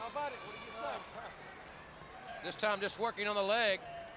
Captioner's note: crowd chatter